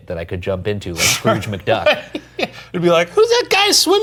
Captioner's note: laughing